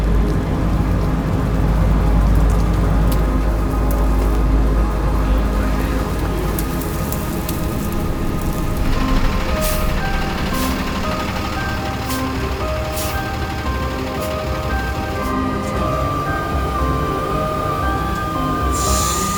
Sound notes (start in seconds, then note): 1.8 slow dramatic music continues; 9.3 truck whirring; 16.0 truck whining